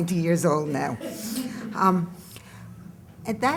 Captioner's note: laughter